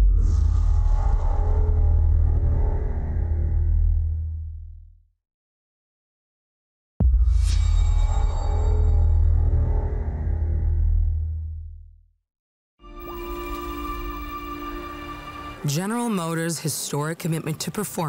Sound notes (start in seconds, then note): 0.0 transition sound; 7.2 transition sound